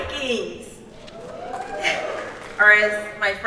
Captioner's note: audience cheers